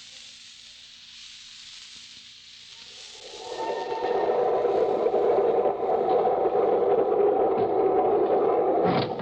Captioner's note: wind howling